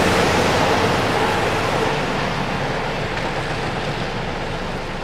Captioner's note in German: Verkehrslärm